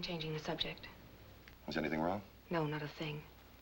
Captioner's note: none